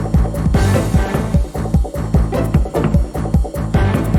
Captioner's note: none